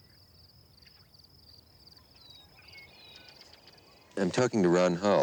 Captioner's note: birds chirping